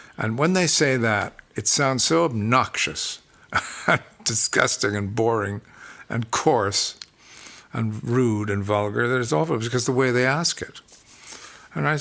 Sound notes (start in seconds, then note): 3.5 laughs